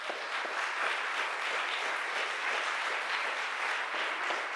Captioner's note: audience applauds